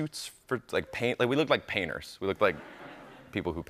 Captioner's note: light laughter